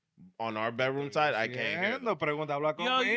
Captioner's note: speaking In Foreign Language